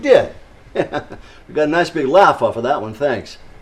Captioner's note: chuckles